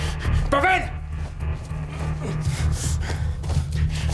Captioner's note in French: Cris en russe